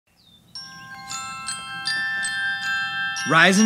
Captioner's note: alarm Sounds